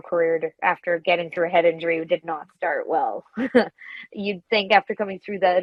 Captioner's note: chuckles